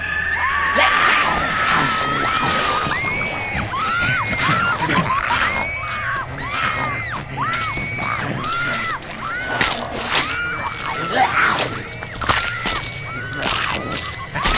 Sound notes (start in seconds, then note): 0.3 Alice and Kirsten screaming; 0.3 Elves roar and growl; 4.1 Elves growling and biting; 4.1 clothes tearing; 7.1 flesh tearing; 7.8 Alice and Kirsten screaming; 9.3 Elves biting; 9.3 bones crunching; 10.9 flesh tearing